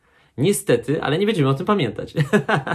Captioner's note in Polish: śmiech